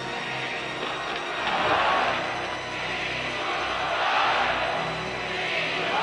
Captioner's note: crowd chants "Indulto!"